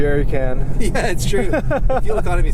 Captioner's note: laughter